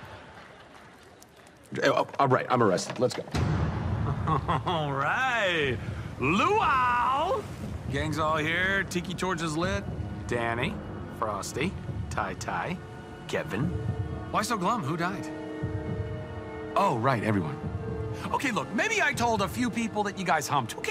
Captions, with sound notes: (stammering) Uh, ah, right. I'm arrested. Let's go. (chuckling) All right! Luau! Gang's all here. Tiki torches lit. Dany, Frosty, Ty-Ty, Kevin. Why so glum? Who died? Oh, right, everyone. Okay, look, maybe I told a few people that you guys humped.